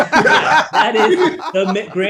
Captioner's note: Wil laughing